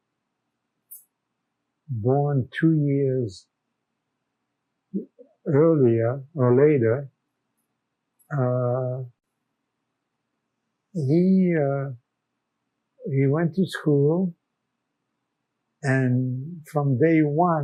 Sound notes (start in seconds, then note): 7.6 pauses 6 seconds